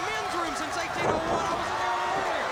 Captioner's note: crowd cheering